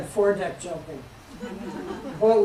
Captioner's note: laughter